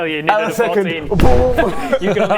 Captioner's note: boom!